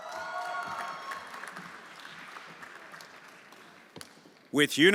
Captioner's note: everyone applauding